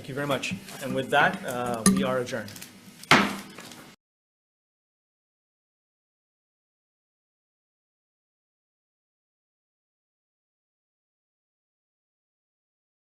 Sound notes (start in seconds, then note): 3.1 gavel bangs